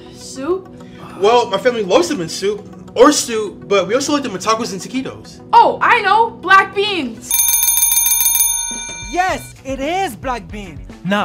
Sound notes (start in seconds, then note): 7.2 bell ringing